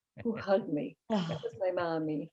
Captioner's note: laughing